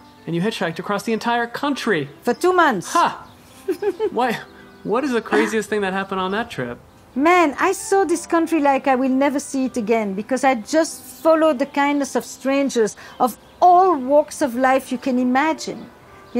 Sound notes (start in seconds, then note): 3.5 Esther laughing